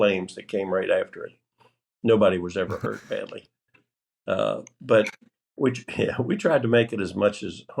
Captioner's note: laughter